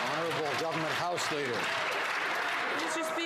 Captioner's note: some Applause